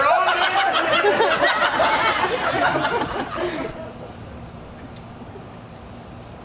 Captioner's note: audience laughs; Puck laughs